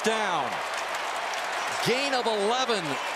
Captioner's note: cheering